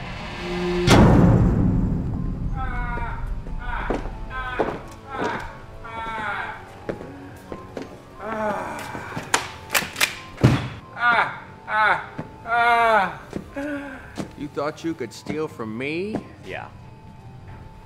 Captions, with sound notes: (Laughing) You thought you could steal from me? Yeah.